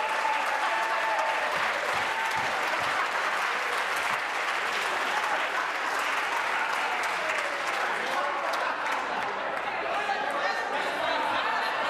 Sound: applause

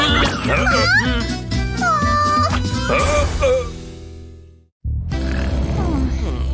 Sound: making angry sounds

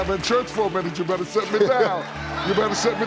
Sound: audience laughing

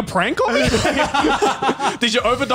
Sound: laughs

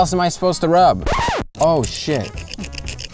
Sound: record screeching

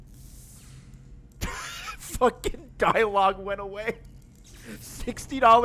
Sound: laughs

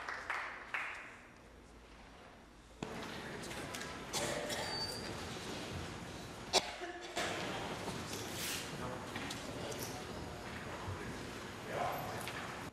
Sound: applause

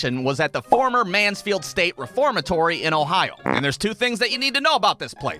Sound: none

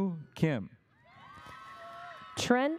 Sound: audience cheers

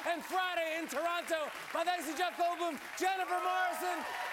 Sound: cheers and applause

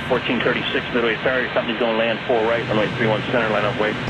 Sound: air traffic chatter

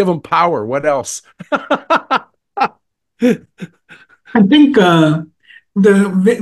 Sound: laugh

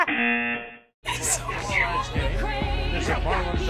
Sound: buzzer; whispering

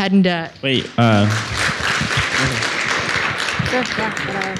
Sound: audience applauds

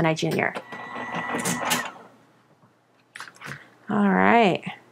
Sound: machine whirs

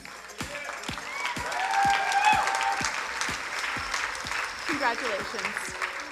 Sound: crowd cheering and applauding

